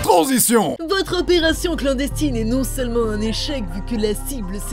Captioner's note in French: Voix féminisée